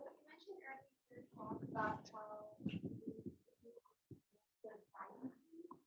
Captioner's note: participant faintly speaking